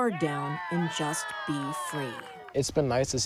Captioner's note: campers cheering